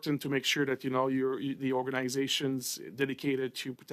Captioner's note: speaking French